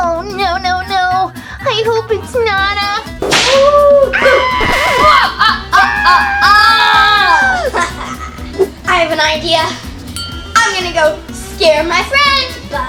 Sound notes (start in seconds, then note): 3.5 screaming; 3.6 ghostly booing